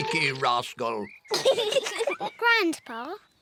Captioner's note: both laugh